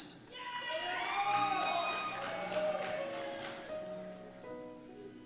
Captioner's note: cheers and Applause